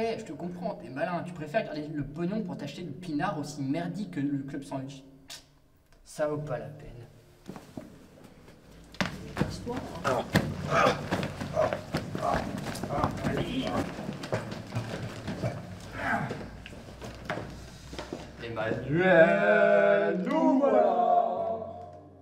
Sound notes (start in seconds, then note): 8.8 Jean groans; 18.4 traders sing a mockup of a french fascist song